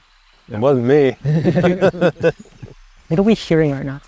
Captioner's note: group laughs